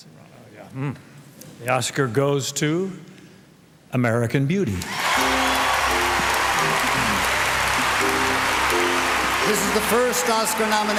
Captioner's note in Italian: Applauso